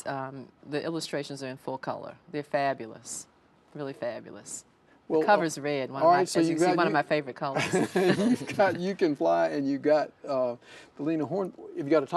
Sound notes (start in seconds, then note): 7.6 laughing